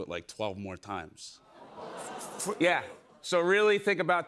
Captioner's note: audience gasps